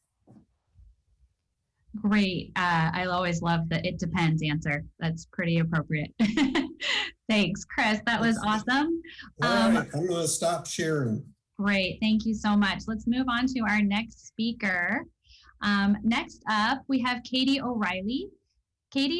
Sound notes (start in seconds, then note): 7.8 laugh